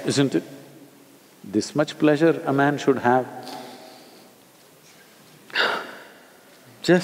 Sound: inhales and exhales

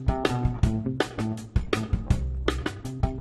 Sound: none

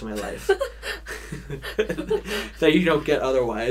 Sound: both laughing

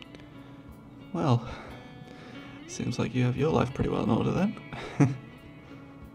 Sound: laughs

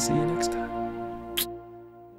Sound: smooch

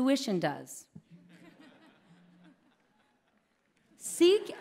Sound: laughter

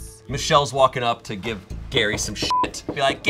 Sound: beep

